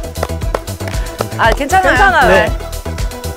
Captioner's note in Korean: 짝짝짝짝